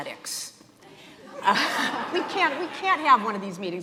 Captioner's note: audience laughing